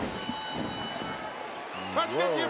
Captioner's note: bell ringing